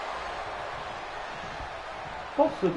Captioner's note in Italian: Applauso